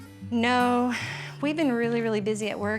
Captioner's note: sighs